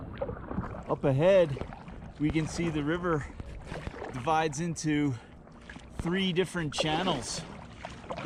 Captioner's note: swishing water